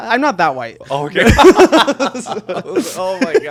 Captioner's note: both laughing